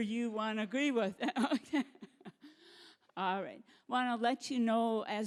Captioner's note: laughing